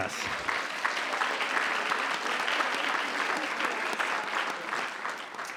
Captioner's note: audience applauding